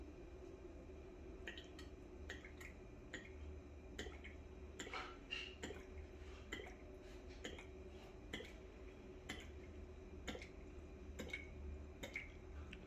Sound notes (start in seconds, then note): 0.8 pouring ink sound